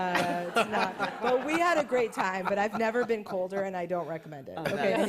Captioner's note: laughter